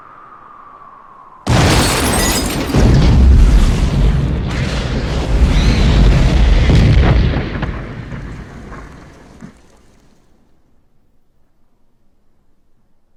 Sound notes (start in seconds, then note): 1.4 car explodes